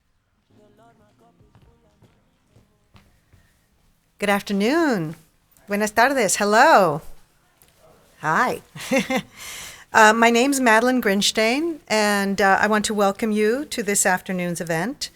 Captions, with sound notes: - Good afternoon, (speaking in Spanish) hello. - Hi. - Hi, my name's Madeleine Grynsztejn, and I want to welcome you to this afternoon's event.